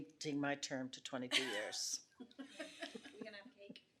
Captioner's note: laughs